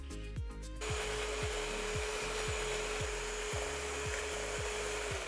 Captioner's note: mixer humming